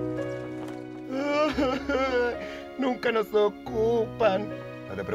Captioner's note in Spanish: Llorando